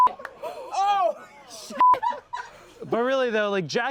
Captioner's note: beep